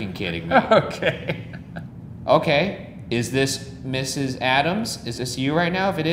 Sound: laughs

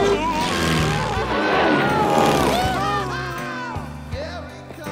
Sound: screaming

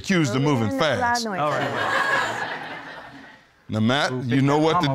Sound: audience laughing

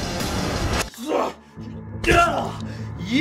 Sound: metal guitar riff; groans in pain

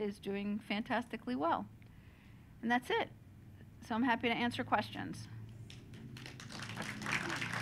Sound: applause

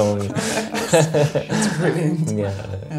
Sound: laughs; they both laugh

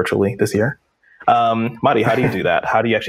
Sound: laughs

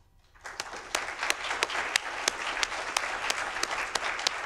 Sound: audience applauding

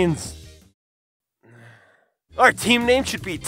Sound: sigh

